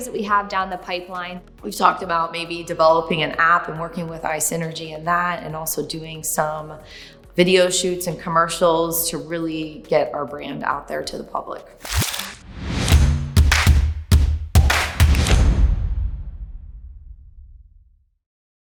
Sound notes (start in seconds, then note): 11.8 whooshing; 11.8 crackling; 13.3 upbeat music